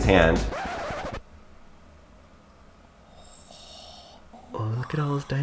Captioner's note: record player needle scratches